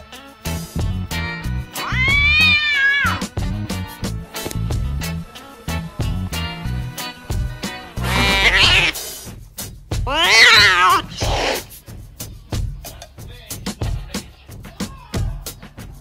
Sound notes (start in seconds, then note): 1.8 tabby Kitten Mewing; 8.0 Black Cat yowls; 10.0 white and Ginger Cat Yowling and Hissing